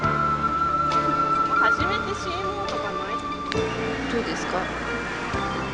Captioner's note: laughs; converses in Japanese